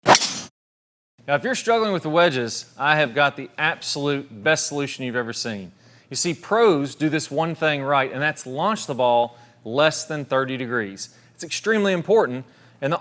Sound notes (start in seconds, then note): 0.0 club whacks